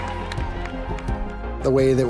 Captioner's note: light clapping